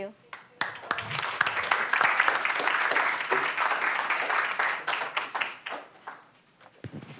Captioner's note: applause